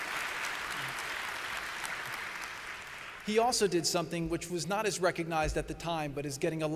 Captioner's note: applause